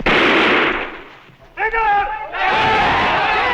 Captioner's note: non-english speech; non-english shouting